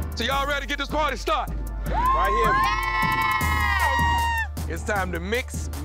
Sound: cheering

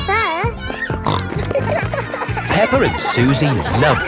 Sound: snorting

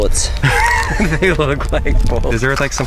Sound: laughs

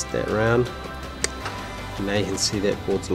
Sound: clicking

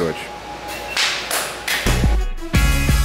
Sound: clapping; upbeat music

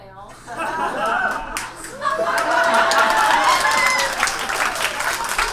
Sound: audience laughs and applauds

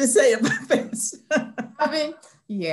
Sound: laughter

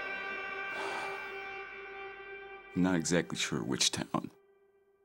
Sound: sighs

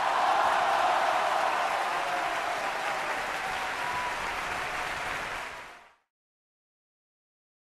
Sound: applause

